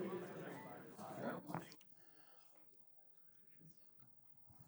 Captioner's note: indistinct audience chatter